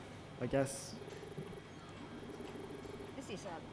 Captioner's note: text beeping